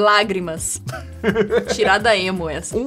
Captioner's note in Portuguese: risada